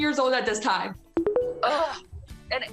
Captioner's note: tones